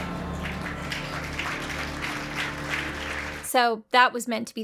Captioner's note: audience applauding